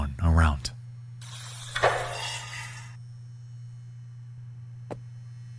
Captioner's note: door opens; lock hisses; footsteps tapping